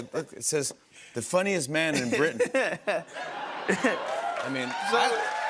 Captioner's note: laughter and cheers